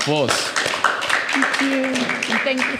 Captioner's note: audience clapping